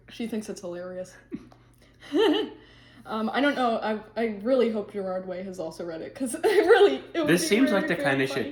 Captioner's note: laughs